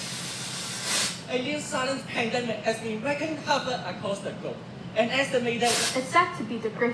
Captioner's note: static; static